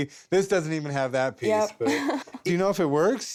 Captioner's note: chuckles